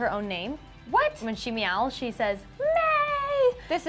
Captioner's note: high-pitched voice